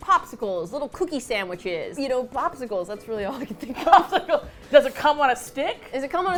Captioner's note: both laugh